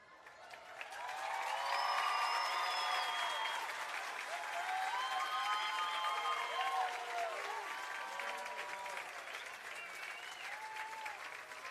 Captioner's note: applause